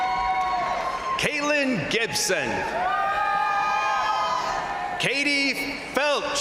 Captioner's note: crowd cheering